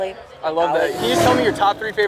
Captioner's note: car revs